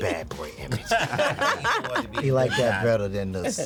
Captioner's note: laughter